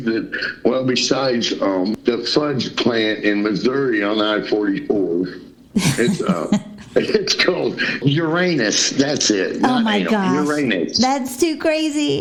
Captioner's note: laughter